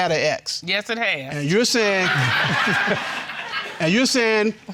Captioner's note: crowd laughing